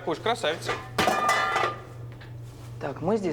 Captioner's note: metallic sounds